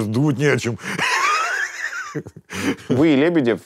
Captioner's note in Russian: смеется